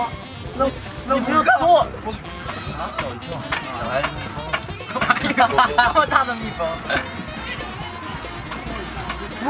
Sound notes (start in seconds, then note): 1.1 rattling